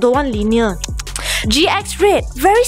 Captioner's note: tsk tsk tsk